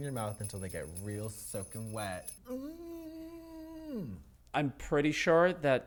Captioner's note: groaning